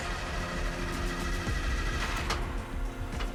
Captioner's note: engine stalling